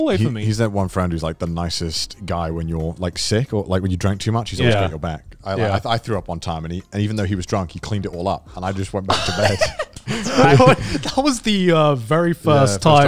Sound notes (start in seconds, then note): 9.1 everyone laughs